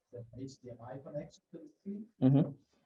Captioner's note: faintly speaks